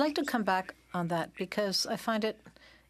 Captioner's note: speaking in French